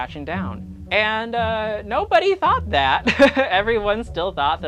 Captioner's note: laughs